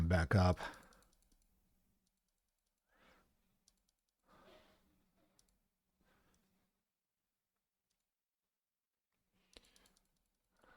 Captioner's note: silence